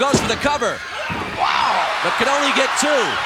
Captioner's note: audience cheering